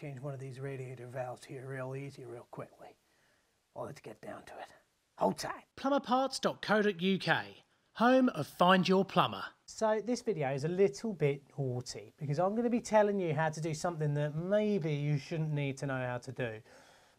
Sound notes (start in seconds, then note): 6.2 voiceover